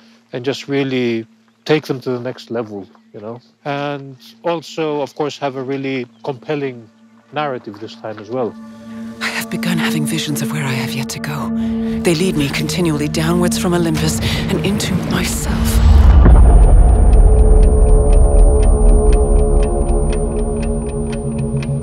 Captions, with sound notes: And just really take them to the next level, you know. And also, of course, have a really compelling narrative this time as well. "I have begun having visions of where I have yet to go." "They lead me continually downwards from Olympus and into myself." [TICKING CLOCK]